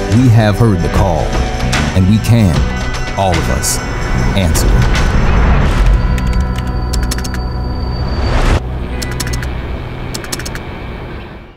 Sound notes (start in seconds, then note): 5.3 keys clicking; 5.3 upbeat music